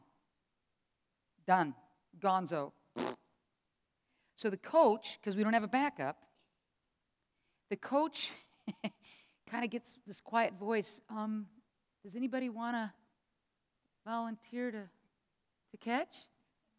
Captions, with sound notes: Done, gone-zo. [blows raspberry] So the coach- 'cause we don't have a back up, the coach [chuckles] kind of gets this quiet voice "Um, does anybody wanna volunteer to- to catch?"